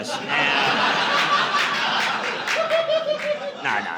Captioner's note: audience laughing